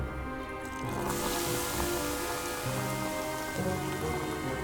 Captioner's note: rock sizzling